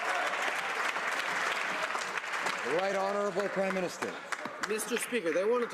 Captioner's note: some Applause